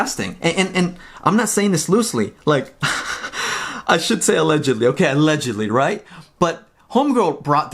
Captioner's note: laughs